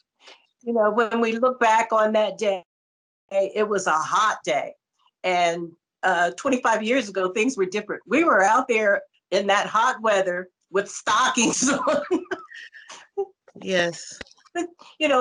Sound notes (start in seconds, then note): 11.4 laughter